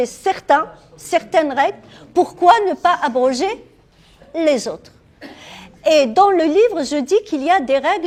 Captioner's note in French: raclement de gorge